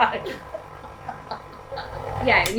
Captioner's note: laughter